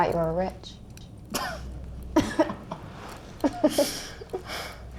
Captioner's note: both laughing